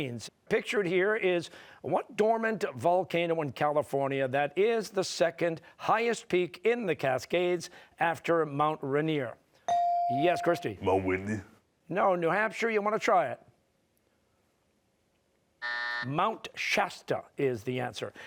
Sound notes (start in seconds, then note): 15.6 buzzer